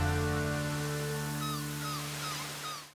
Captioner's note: waves crashing; seagulls cawing